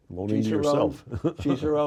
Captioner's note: laughs